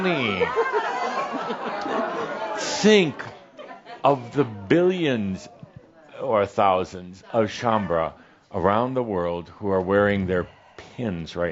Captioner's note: more chuckles